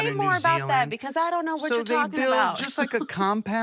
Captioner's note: laughs